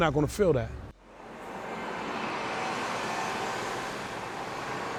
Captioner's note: car engine whooshing